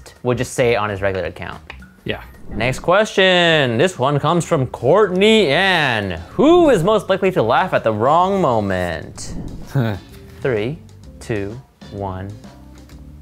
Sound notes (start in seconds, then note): 9.7 laughs